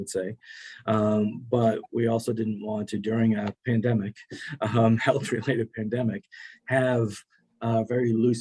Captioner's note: laughing